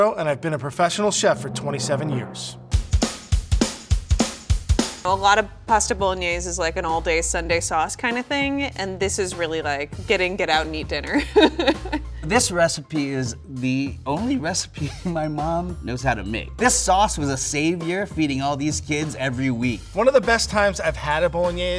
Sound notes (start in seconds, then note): 2.8 upbeat drums; 11.1 laughs